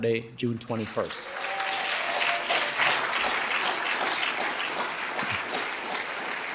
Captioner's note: audience cheering and applauding